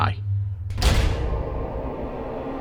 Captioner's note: sound FX